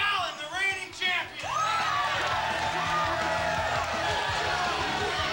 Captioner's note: crowd cheering